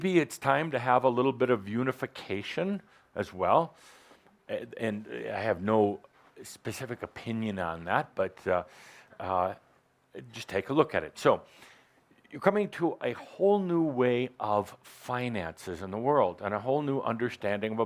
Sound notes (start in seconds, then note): none